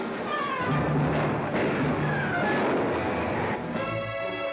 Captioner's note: gunshots